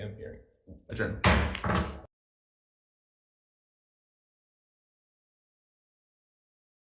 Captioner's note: gavel bangs